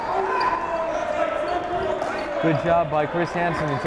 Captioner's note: yelling